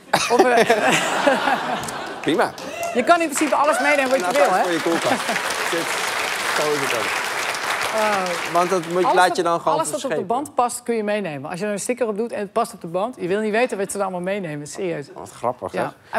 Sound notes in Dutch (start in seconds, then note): 7.2 applaus